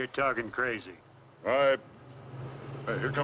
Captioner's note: engine revs